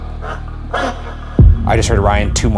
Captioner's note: radio static buzzes